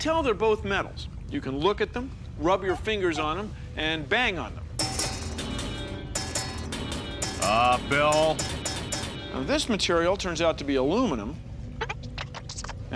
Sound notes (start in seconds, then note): 4.7 <i> low and high-pitched</i> <i> clanging</i>